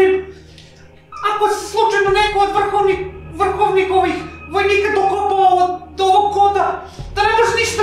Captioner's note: stutters